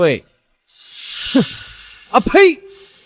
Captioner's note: spits